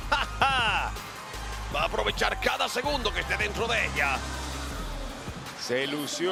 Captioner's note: laugh